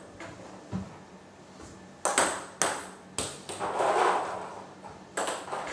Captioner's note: ball ping pong hitting continues